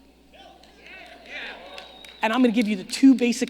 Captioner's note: audience agreeing